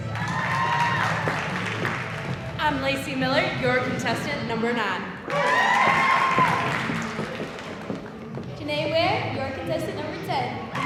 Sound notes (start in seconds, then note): 0.0 audience cheering; 5.3 audience cheering